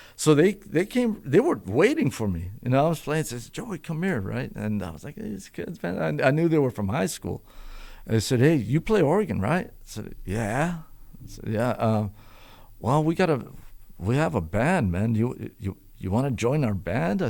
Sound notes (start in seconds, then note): none